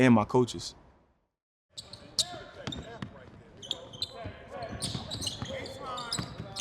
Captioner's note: basketball dribbling, shoes squeaking